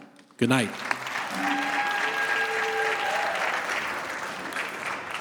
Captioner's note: audience applauding